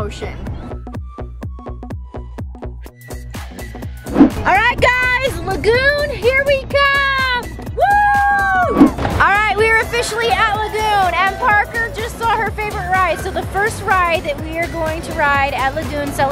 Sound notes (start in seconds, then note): 0.2 upbeat techno music; 7.8 cheering